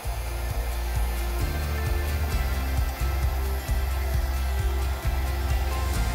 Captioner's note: hair dryer blowing; upbeat music